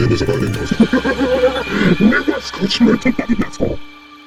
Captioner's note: clatter